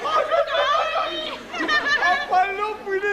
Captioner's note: γέλιο